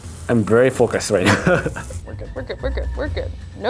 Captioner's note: laughing